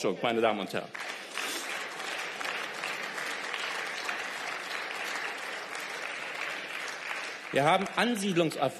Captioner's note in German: Beifall